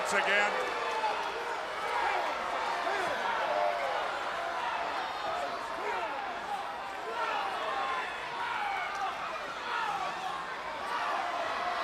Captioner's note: crowd chatter